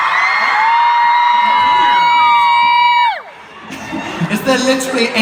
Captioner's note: cheers